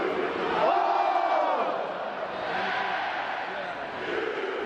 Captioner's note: Reser Stadium crowd chanting: “O — S — U, O — S — U, O — S — U”